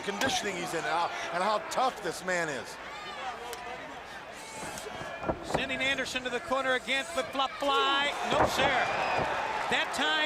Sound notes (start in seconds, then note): 3.3 crowd chatter; 9.3 crowd cheering